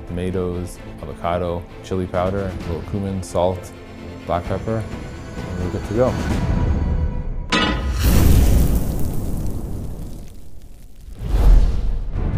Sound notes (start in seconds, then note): 7.5 pan clanks; 9.3 burst of flames